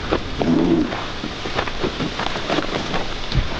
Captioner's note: Og grunting